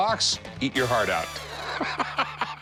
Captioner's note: laughs